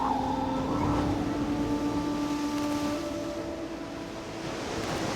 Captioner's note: waves crashing